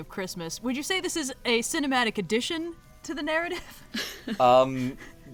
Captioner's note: laughs